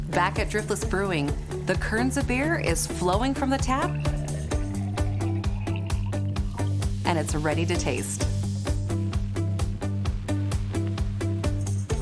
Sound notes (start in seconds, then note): 5.3 beer pouring; 9.7 upbeat music